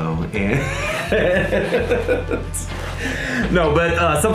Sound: laughter

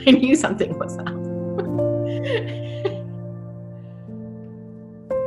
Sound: giggling; reflective music

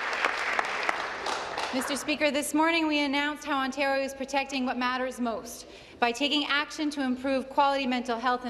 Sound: applause

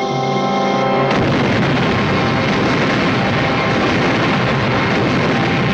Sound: dynamite exploding

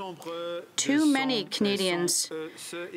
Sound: speaking French

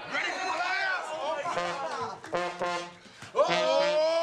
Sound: horn blowing

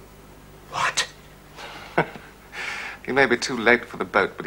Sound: chuckles

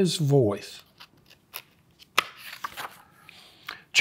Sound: pages rustling

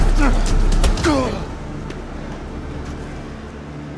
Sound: blow landing

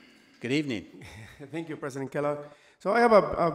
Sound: laughs

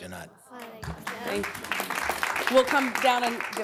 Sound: applause

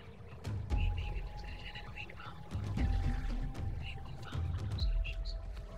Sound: whispers indistinctly

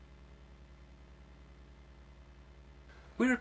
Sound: pause

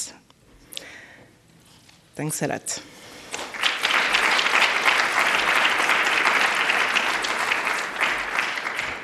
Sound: applause

